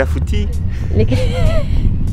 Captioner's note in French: Rires